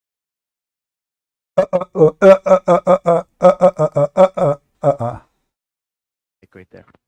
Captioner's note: Ketawa